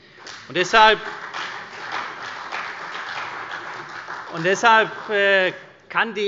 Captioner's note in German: Beifall bei der CDU und dem BÜNDNIS 90/DIE GRÜNEN